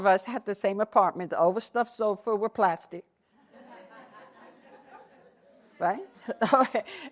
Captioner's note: laughter